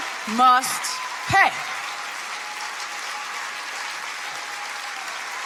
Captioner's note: audience applauding